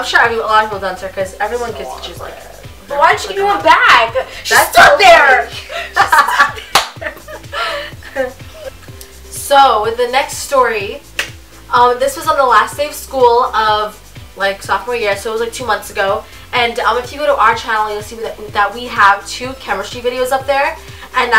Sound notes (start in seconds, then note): 8.0 laughs